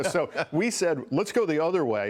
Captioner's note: laughter